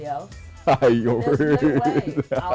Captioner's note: laughing